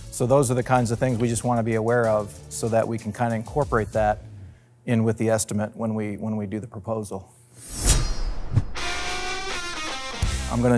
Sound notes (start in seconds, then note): 7.6 sword slicing; 8.8 energetic rock music